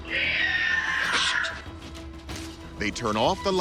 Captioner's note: screeching